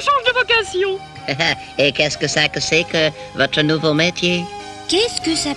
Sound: chuckles

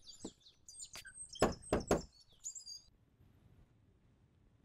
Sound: doorknocker thuds

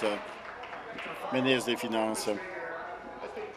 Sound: applause

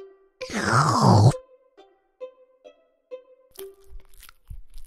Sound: slurping; chewing

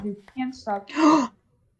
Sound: gasp

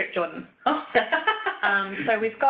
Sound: laughs

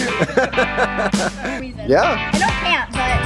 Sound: laughs

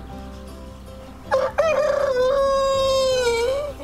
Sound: rooster crow

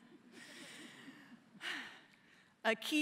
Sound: laughter

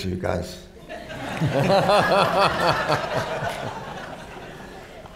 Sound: laughter

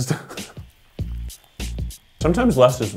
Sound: laughs

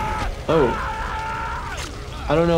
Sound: screaming continues

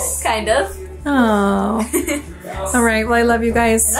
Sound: laughs

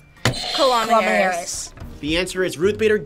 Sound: buzzer rings

